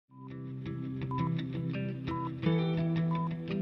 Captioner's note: beeping